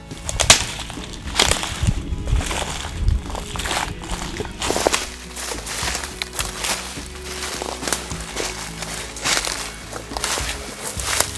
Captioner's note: sound of walking, soft music